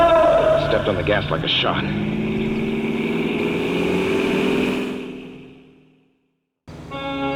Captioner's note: car engine, faster